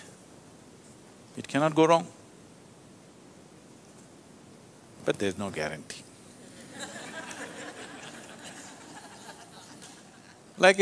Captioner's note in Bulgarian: смях